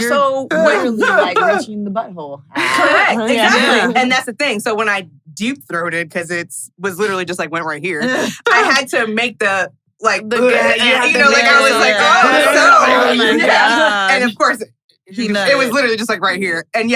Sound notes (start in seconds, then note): 9.1 gagging